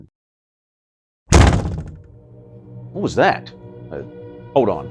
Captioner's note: bang